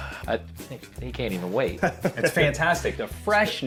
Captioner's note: laughs